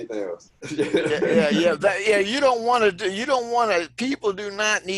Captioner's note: laughter